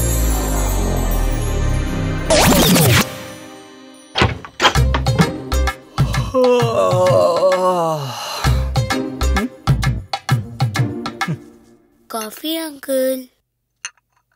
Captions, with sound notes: (Yawns) Coffee for you, uncle.